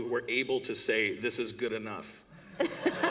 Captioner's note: laughter